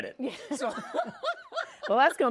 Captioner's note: laughs